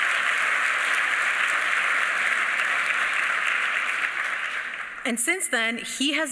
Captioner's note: applause